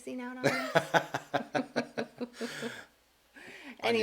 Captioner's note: laughing